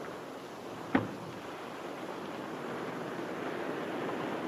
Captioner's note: microscope thuds